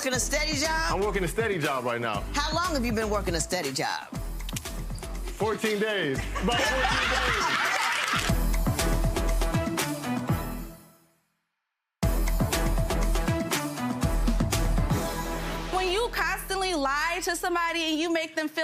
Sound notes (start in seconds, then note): 7.8 audience laughing; 8.6 upbeat music